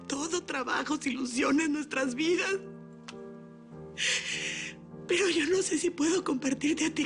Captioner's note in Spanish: Solloza